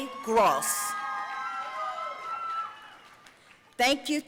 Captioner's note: audience cheering and applauding